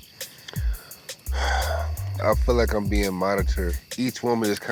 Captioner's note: sighs